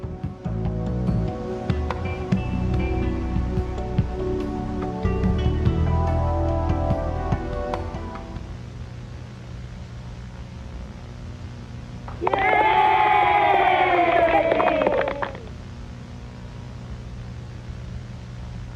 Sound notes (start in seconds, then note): 0.1 soft music; 12.1 crowd cheering